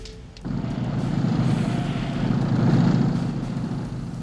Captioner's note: engine rumbling